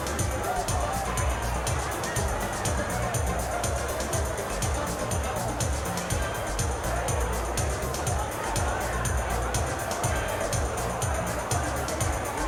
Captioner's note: cheering